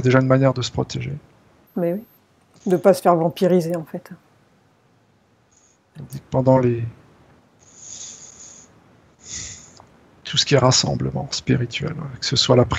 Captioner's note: energetic fluid sucked